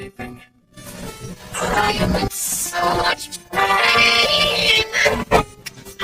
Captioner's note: voice glitching, stuttering